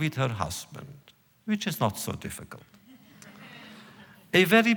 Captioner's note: laughter